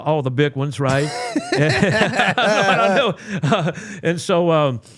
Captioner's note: both laughing